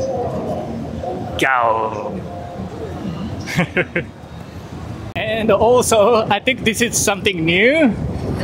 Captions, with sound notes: Gaooo! [CHUCKLES] And also, I think this is something new.